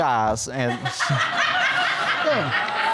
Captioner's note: audience laughing